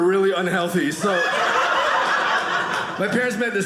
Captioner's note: audience laughing